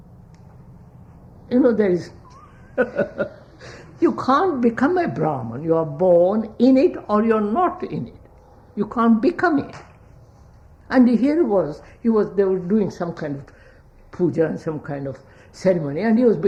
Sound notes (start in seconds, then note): 2.2 laughs